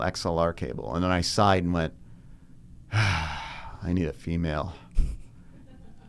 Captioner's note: sighs